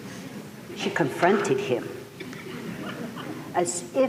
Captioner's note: laughter